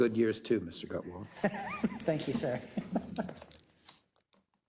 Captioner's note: laugh